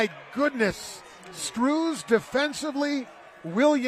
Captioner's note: applause